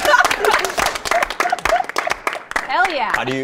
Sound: laughs; participants clapping

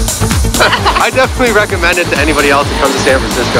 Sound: laughs

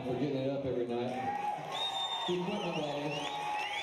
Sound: audience cheering; band applauding

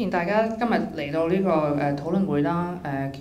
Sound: Cantonese

